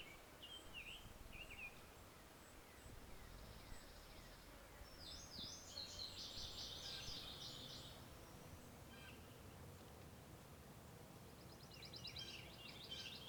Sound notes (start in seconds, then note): 2.4 bird calls, insects buzzing